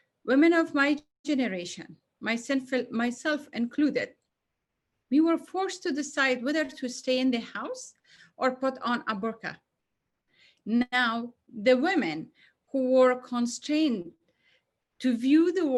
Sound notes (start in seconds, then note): none